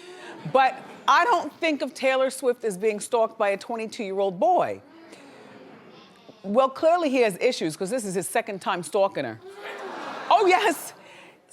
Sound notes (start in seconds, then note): 0.2 audience hums; 5.1 audience hums; 9.5 audience gasps